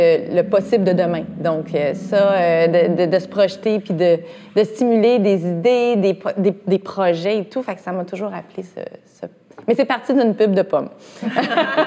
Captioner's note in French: rires